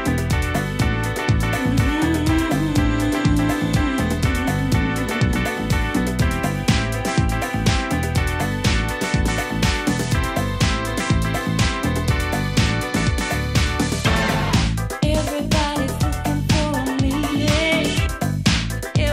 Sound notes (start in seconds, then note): 1.6 humming